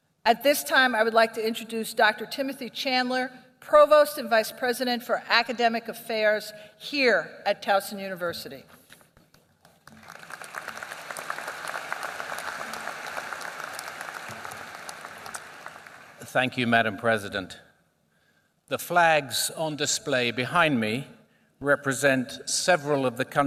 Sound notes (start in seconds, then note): 9.6 applause